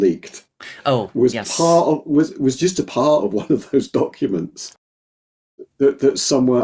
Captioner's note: laughing